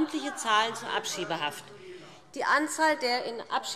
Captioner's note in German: Zurufe DIE LINKE